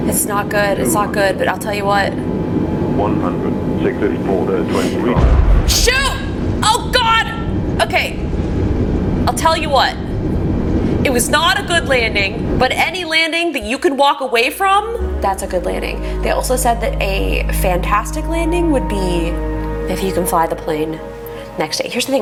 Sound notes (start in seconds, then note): 4.7 inhales; 5.1 simulated plane thuds; 15.8 sweeping music